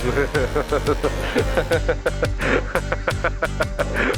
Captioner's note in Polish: śmiech